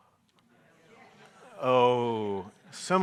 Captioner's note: audience mumbling